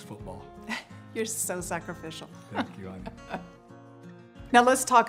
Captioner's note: chuckles